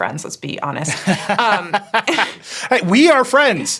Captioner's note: both laughing